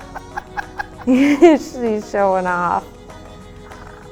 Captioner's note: crows